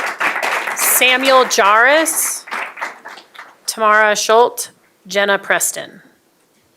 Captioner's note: applause